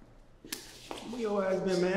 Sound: hand slapping

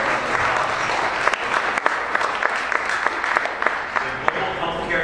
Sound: applauding

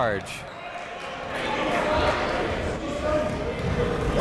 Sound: crowd talking

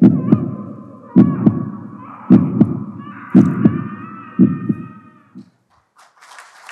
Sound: scream

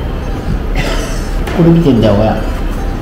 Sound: laughs

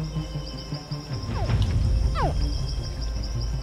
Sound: dramatic music playing; hatchling grunts

